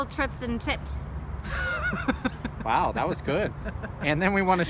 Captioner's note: laughs